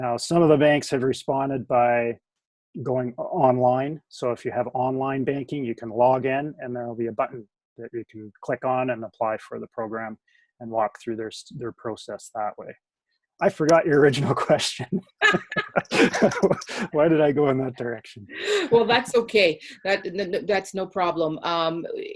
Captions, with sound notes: Now some of the bans have responded by going online, so if you have online banking, you can log in and there will be a button that you click on and apply for the program, and walk through their process that way. I forgot your original question. (chuckles) - (laughs) - Why did I go in that direction? - Well that's okay, that's no problem,